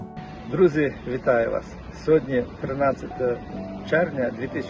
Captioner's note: man speaking Ukrainian